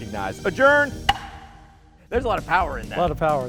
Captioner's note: slamming gavel